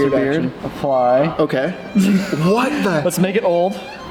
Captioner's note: laugh